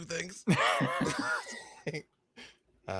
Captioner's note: laughs